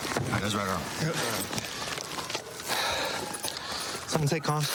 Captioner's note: sirens blaring